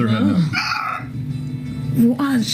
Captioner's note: more bird noises